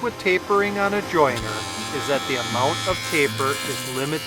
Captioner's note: saw buzzing